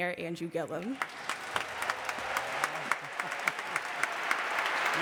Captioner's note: audience applauding